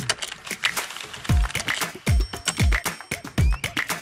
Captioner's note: upbeat music; keyboard tapping